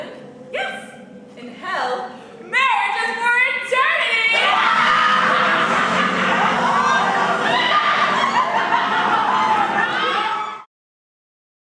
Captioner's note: wild laughter